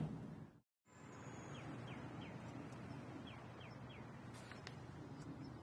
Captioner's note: birds chirping